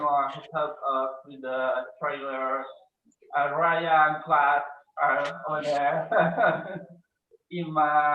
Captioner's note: laughs